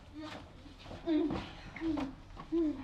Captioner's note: footsteps, door opening